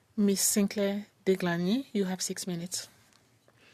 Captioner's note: speaking French